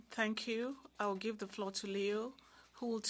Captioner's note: speaking French